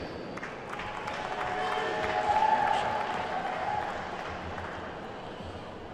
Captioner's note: attendees whooping and clapping